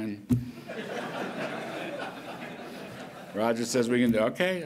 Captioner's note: laughter